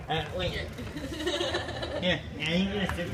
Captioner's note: laughs